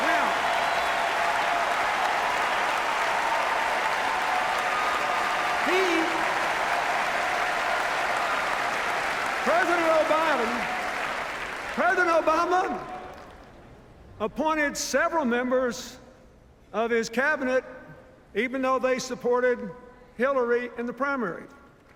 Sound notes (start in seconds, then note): 0.8 sustained cheers, applause